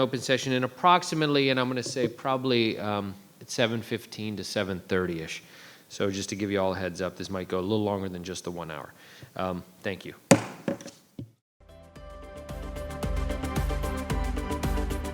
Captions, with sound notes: to open session in approximately, I'm going to say probably` 7:15 to 7:30-ish. So just to give you all a heads up, this might go a little longer than just the one hour. Thank you. (gavel) (upbeat music)